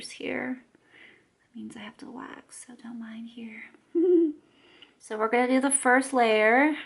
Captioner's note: giggle